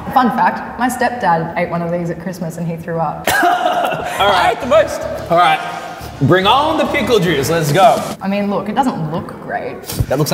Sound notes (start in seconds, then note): 3.2 laughing